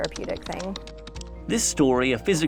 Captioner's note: fingers tapping